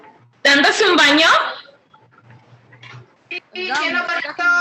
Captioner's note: woman speaking Spanish